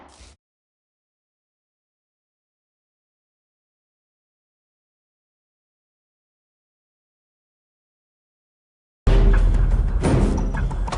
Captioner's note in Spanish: Disparo